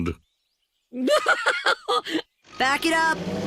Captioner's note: laughs